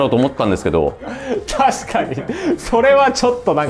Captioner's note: laughs